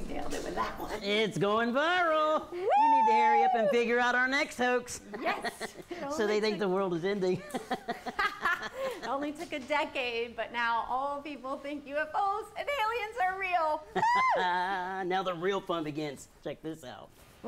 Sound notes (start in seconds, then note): 7.4 laughs; 13.9 chuckles